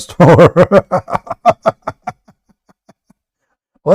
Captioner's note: Ketawa